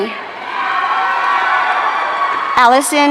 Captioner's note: audience cheering